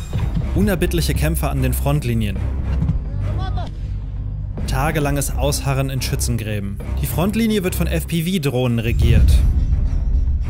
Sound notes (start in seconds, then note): 2.9 someone shouts something; 9.0 muffled crash